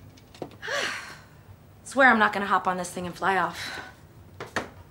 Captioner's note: sighs